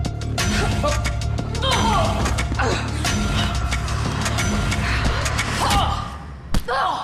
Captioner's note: action music; Riley grunting